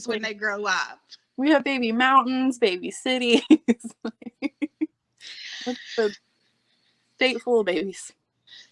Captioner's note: laughing